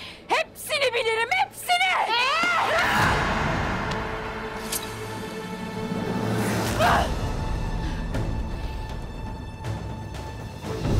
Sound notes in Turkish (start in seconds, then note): 4.6 Hançer çekme sesi; 10.4 Müzik - Gerilim